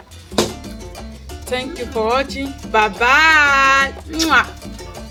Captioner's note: kisses